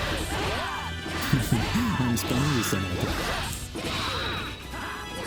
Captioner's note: laughs